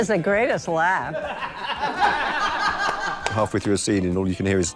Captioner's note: Rian laughing